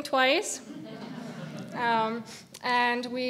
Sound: audience laughing

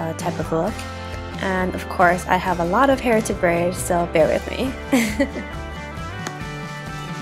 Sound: laughs

